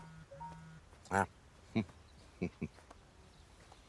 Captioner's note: chuckles